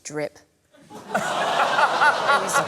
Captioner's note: laughter